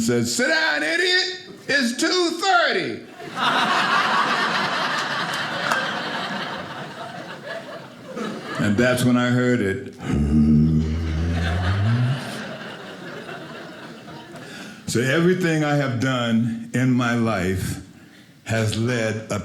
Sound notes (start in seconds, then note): 3.1 audience laughing; 10.0 humming; 10.8 audience laughing